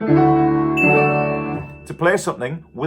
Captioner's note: calm piano music; bell rings